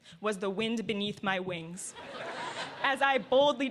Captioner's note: laughter